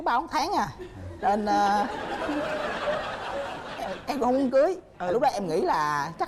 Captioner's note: laughing